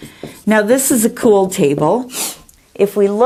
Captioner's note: sniffles